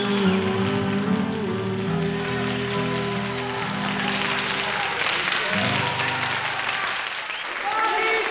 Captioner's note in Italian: Applauso